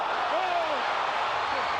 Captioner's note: crowd exclaims